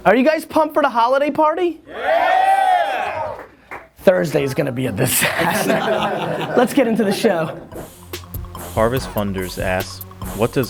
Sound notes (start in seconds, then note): 5.0 laughter; 8.7 voiceover